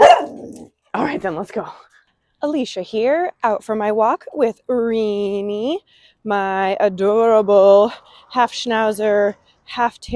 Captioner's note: dog bark